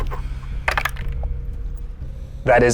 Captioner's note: die rattles